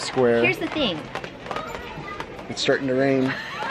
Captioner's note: rain patters